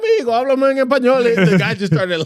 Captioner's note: speaking In Foreign Language